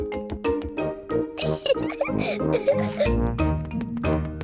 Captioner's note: giggles